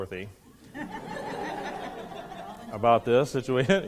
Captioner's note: students laughing